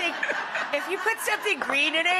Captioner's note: crowd laughs